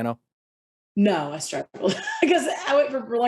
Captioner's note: chuckles